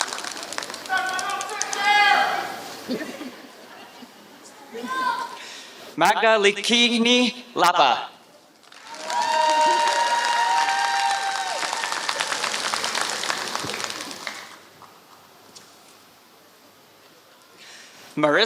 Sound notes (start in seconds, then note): 0.0 applause; 6.3 applause; 12.3 applause